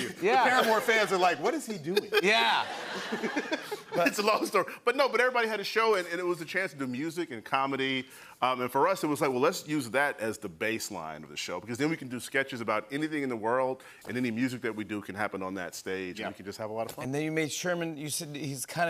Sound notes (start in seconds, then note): 1.8 laughter